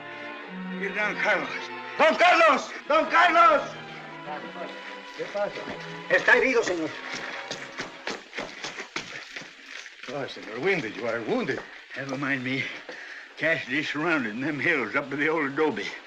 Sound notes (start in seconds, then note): 4.5 in spanish